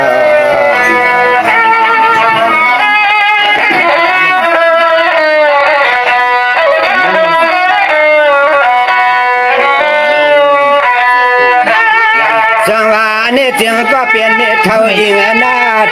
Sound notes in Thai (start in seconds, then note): 3.3 ปรบมือ